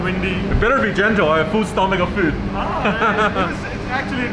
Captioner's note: chuckles